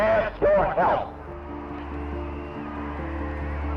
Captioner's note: crowd cheering